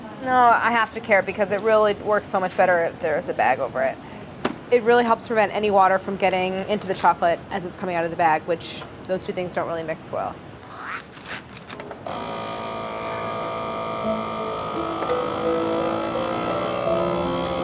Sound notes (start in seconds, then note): 12.0 vacuum sealer whirs; 14.0 wistful piano music